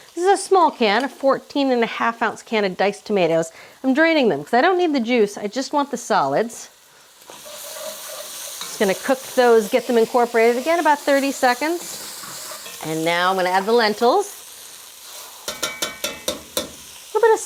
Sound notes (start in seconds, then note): 7.4 mixture sizzling; 15.5 colander tapping